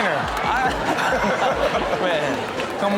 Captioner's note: laughs